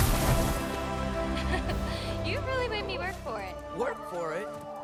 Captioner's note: laugh